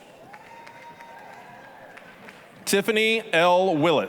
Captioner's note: applause, cheering